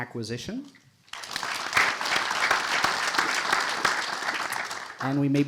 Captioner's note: audience applauding